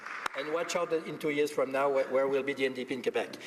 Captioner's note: applause